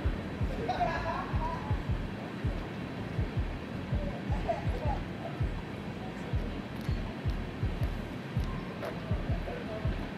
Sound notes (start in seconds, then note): 0.4 men laughing and faintly talking; 7.2 rhythmic music